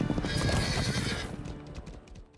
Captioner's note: horse whinnies